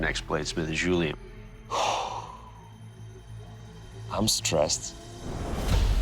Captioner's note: exhales sharply